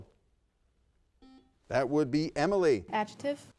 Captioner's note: buzzer sounds